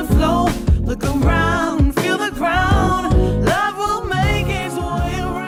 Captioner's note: ahh